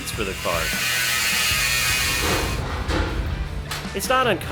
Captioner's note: grinder Grind